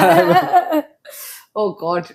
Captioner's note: laughs